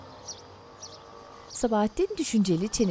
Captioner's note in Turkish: Kuş cıvıltısı sesleri